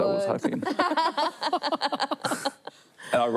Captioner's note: laughter